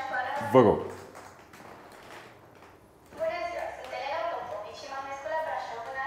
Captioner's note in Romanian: Aplauze